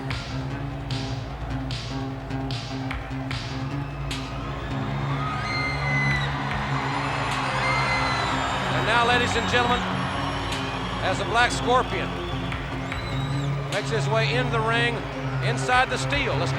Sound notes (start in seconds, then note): 0.1 ominous instrumental music continues; 4.7 crowd cheering